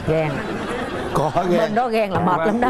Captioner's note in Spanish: risas